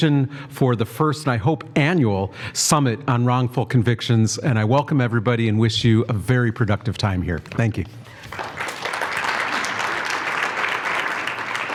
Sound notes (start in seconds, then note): 8.1 applause